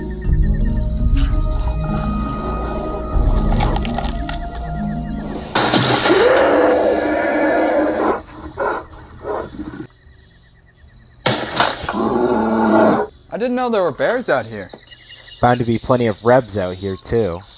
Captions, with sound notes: (Gun Shot) I didn’t know there were bears out here! Bound to be plenty of Rebs out here too.